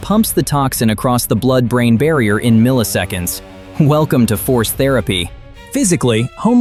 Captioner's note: sarcastic